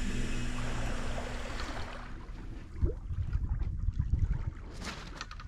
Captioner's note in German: sanftes Wassergeräusch